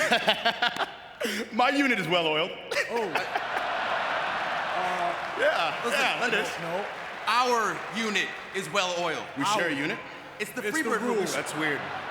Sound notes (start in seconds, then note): 2.7 laughs; 2.8 audience laughing